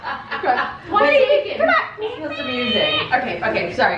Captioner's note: laughter; high-pitched vocalizing